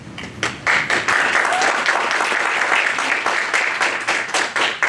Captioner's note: audience applauds